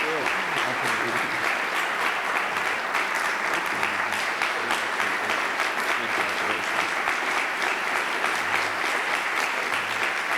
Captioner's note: applause